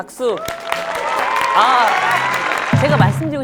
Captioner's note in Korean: 짝짝짝짝짝